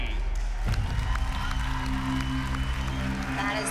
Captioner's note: cheering, applause